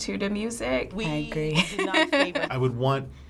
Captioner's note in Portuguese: risos